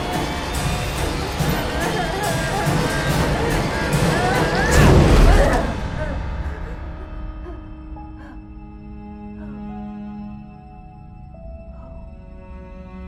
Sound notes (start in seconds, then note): 2.4 dramatic music; 2.4 sobbing; 8.9 slow orchestral music